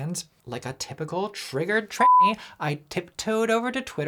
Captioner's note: beep